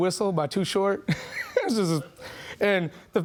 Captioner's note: laughing